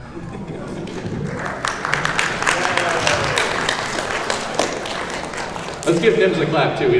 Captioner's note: applause